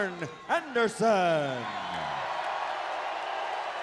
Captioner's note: crowd cheering